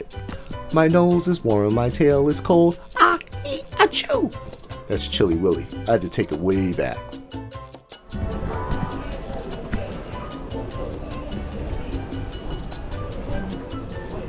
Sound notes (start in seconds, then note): 3.0 sneezing